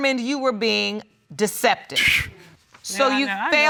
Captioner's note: exclaims